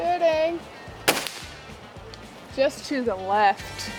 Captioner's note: shot fires